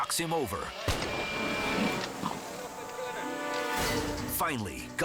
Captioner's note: rifle blasts